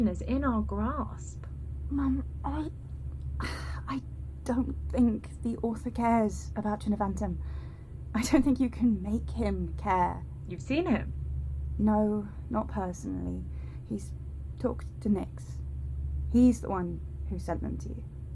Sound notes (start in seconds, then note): 3.4 sighs